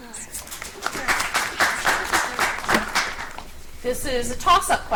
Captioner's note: audience applauds